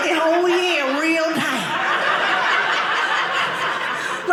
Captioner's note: audience laughing